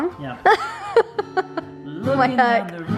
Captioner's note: laughs